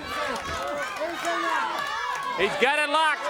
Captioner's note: crowd cheering